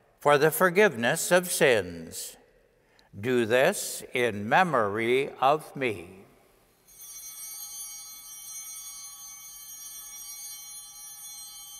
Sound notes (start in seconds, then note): 6.9 bells ringing